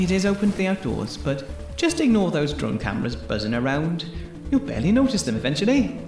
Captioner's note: sounds of water lapping; faint buzzing